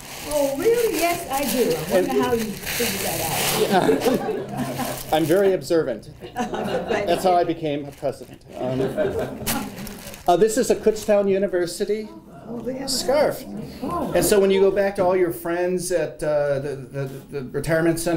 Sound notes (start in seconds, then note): 3.6 laughter; 8.4 laughter